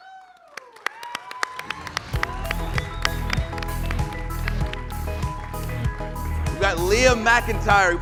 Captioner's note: cheers and applause